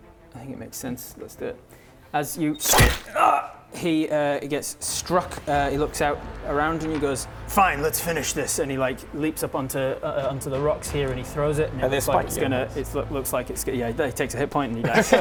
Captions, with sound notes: I think it makes sense, let's do it as you *slam* agh! he gets struck he looks out around and he goes Fine, let's finish this and he like leaps up onto onto the rocks here and he throws it - and it looks like it's gonna - and they're spiky rocks looks like, yeah he takes a hit point and he dies